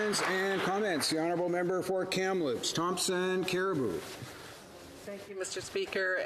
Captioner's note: some Applause